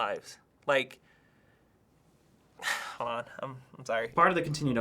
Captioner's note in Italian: sospira